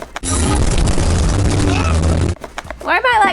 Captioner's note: clattering sound